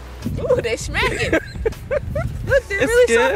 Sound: grammy chuckles

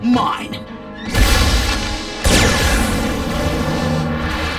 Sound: blasting

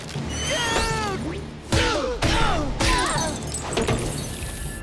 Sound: grunting

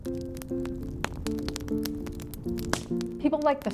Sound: fire crackles

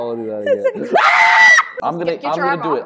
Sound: scream

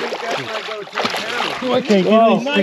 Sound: fish splashing

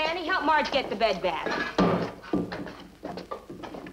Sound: metal clinks

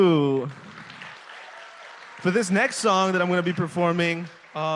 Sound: applause

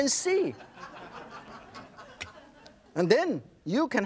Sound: audience laughs

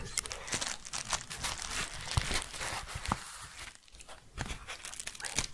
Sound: crinkling

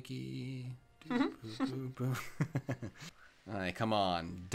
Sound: laughter

